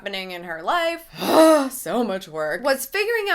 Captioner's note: sighing